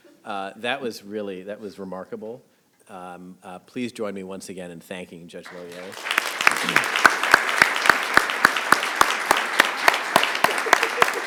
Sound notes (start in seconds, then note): 5.4 audience clapping